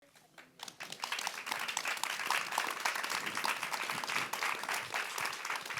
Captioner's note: audience applauds